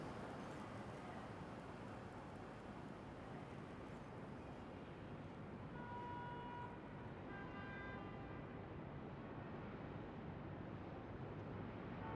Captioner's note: muffled city sounds